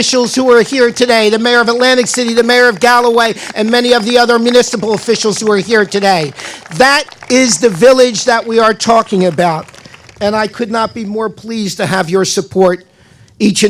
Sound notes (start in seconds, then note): 6.1 audience Applause throughout